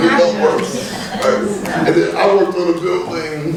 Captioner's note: cheering